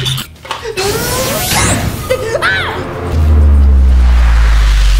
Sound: laughing; zapping noise

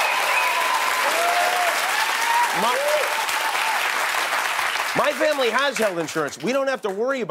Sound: cheers and applause

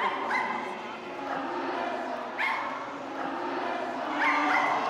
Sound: dogs barking

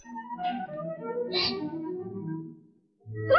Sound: gasps

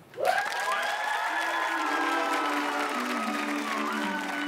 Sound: audience clapping

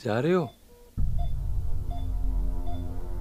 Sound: rapid beeping

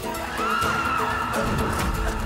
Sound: Çığlık sesleri

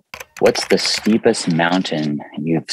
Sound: keyboard clicking

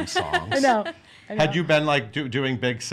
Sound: laughs

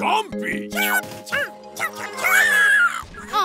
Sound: chomping

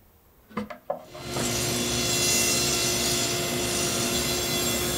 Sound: machine whirring

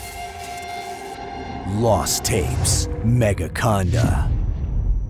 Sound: none

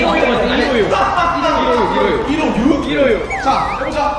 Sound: hahahaha

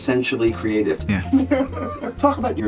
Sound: laughter

